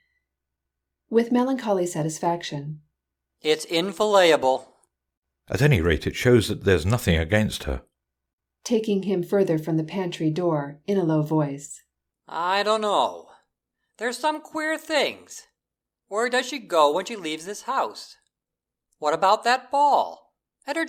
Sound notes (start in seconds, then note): 8.9 taking him further from the pantry door, in a low voice